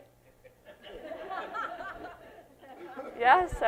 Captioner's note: laughter